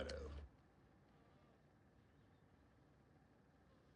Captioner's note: fly buzzing